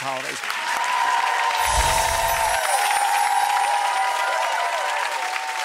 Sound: audience cheering and applauding

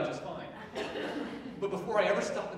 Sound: audience laughing

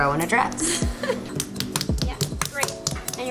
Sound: laughs; slapping clay

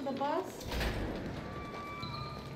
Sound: door opens

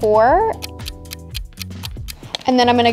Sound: clock ticking

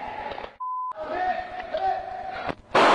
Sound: gunshot

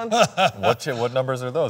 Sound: Ken laughing

